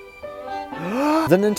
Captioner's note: inhales